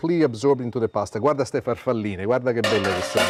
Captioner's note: speaking Italian